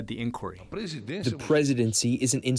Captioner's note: through translator